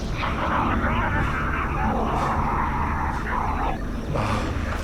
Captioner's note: muffled growling